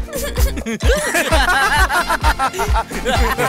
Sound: laughs

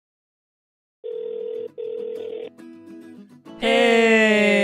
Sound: phone trilling

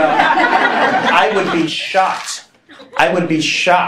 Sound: laughing

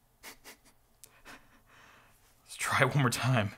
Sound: laughs softly

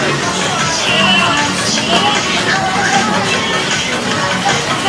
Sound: haha

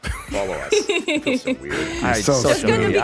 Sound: laughs

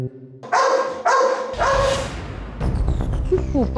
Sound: dog barks

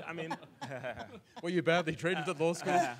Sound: audience laughs

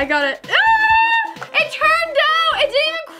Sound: cries out

